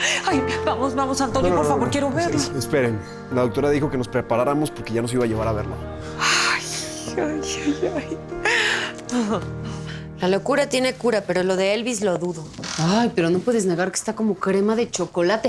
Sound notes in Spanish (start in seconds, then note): 7.1 Ríe